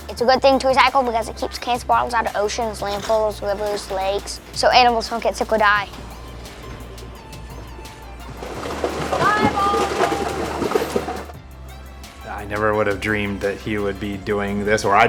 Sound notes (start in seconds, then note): 6.0 soft music; 8.5 bottles squeaking